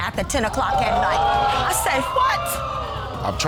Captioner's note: audience gasps